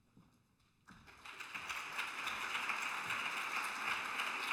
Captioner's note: applause